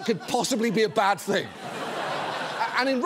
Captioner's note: laughter